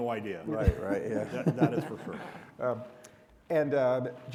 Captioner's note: all giggle